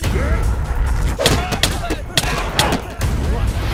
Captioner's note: grunting, fighting